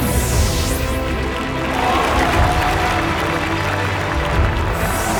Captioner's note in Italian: versi scioccati e applausi